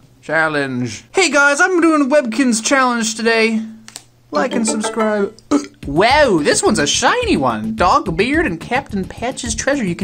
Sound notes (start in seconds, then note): 1.0 obnoxious vlogger voice; 5.3 burps